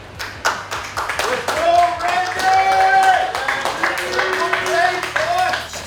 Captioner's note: cheering & Clapping